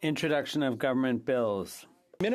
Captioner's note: speaking French